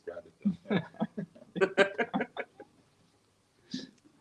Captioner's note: laughing